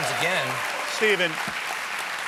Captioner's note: applause